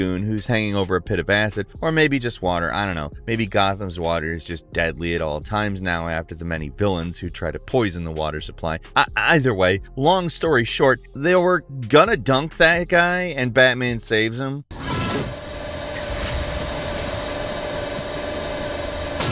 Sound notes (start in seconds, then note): 14.7 machine whirring